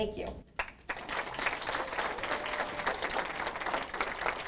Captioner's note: audience applause